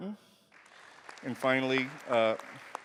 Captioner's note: applause